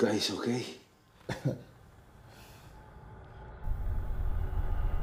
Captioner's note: Bolo coughs